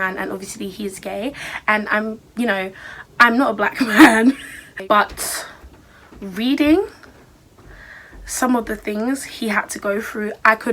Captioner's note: laughs